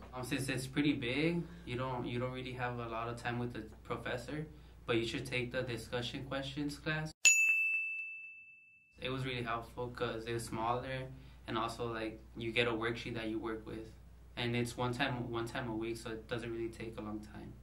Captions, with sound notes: Obviously it's pretty big. You don't really have a lot of time with the professor, but you should take the discussion questions class. [Bell] It was really helpful because they're smaller, and also like you get a worksheet that you work with, and it's one time a week, so it doesn't really take a long time.